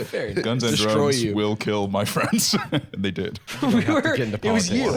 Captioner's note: laughs